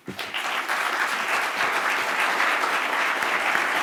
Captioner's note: applauding